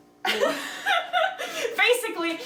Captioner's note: laughter